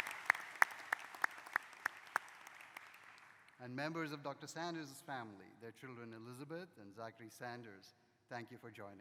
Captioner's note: applause